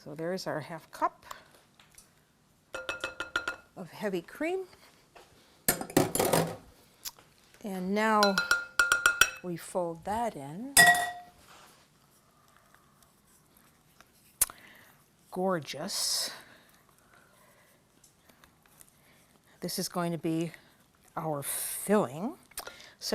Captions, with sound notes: So there is our 1/2 cup of heavy cream. [bowl clatters] And now [tapping] we fold that in. [spoon clangs] Gorgeous. This is going to be our filling.